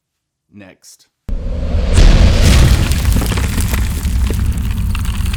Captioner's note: loud banging sound